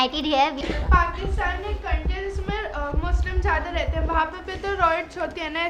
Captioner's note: speaks in foreign language